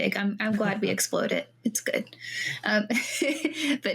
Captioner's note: laughing